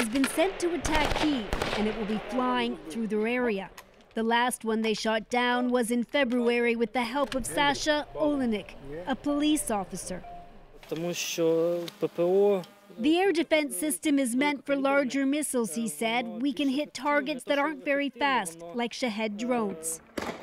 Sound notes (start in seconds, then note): 0.0 gunshots; 12.1 speaking alternate language